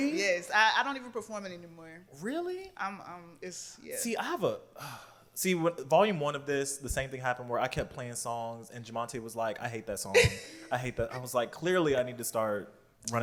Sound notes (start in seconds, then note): 4.8 sighs; 10.1 laughs